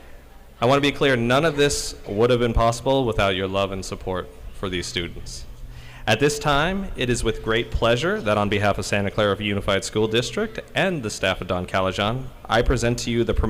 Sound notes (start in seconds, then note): none